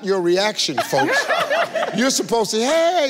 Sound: laughs

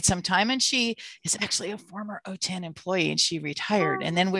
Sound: whispering

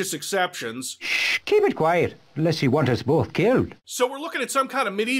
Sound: QUINCY, with a ludicrous Irish accent

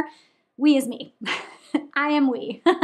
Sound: chuckling

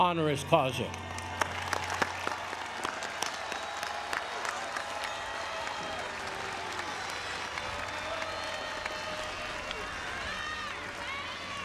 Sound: applause

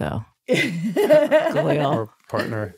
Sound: laughing

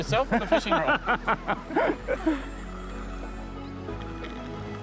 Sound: laughs

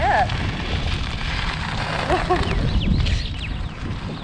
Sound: tyres crunching

